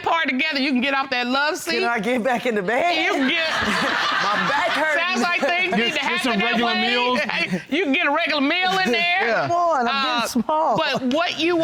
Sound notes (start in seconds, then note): 2.8 chuckles